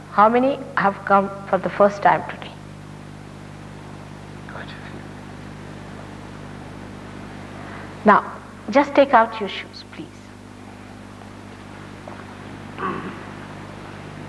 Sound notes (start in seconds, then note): 3.7 whispers